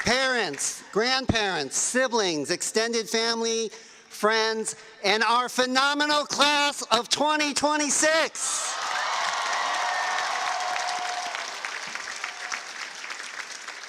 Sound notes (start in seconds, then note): 4.0 cheers and applause